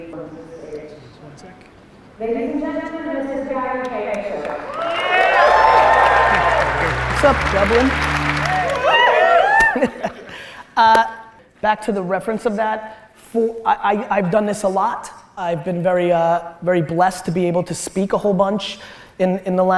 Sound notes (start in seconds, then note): 4.4 audience cheers and applause; 8.9 audience cheers